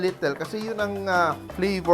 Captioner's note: sizzle